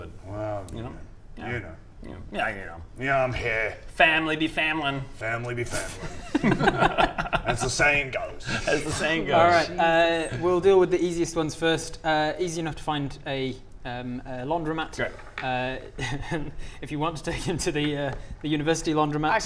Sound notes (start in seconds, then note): 15.6 laughs